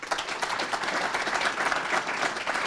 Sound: applause

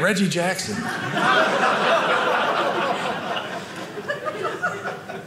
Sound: audience laughing

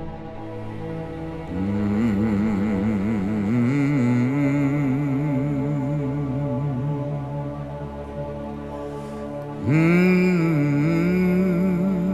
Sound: humming

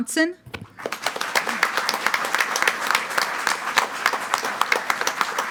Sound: group applauding

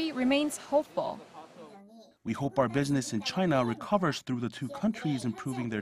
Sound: Korean

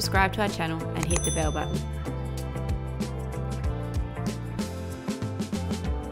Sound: bell tinkling

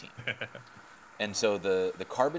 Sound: chuckling

